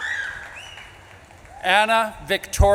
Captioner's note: audience claps and cheers